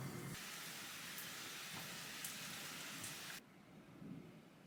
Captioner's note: the sound of the rain is intense